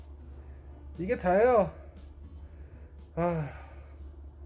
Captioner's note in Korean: 한 숨